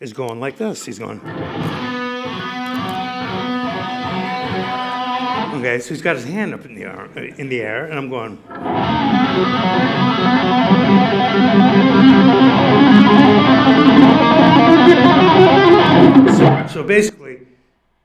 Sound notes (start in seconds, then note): 1.1 guitar plays; 7.8 guitar playing; 8.5 tapping notes